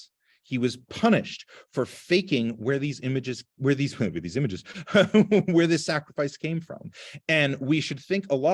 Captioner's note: laughter